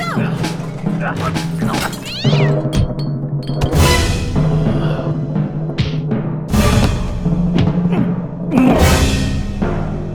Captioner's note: crashing furniture, cat yowl, punches